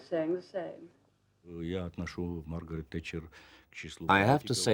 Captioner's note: speaking Russian